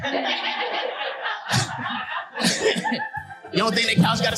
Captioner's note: audience laughing